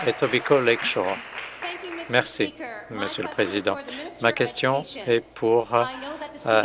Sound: applause

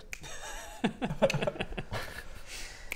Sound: chuckles

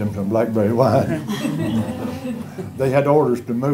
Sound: laughter

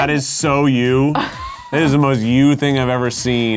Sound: chuckles

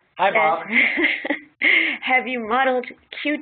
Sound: laughing

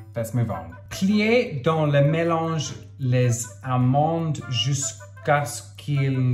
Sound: speaking in foreign language

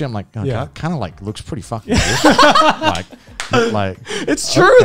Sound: men laughing

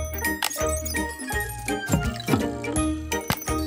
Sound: clicking

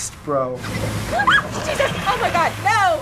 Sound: screams

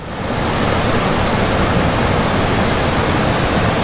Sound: waterfall roaring

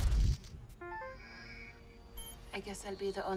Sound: device beeps

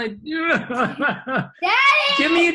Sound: laughs

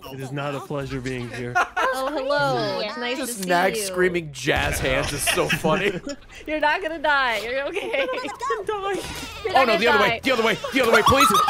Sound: laughs

